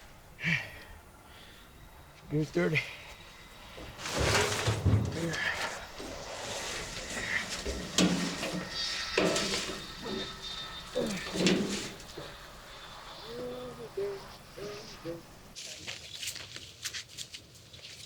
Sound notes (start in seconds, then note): 10.1 plane engines whirring; 10.1 tense music; 13.2 Nolan humming